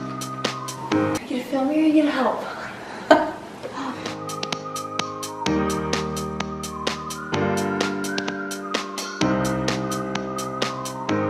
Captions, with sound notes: Are you gonna film or are you gonna help? (chuckles) (cheerful music)